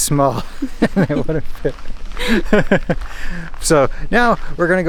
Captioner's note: laughs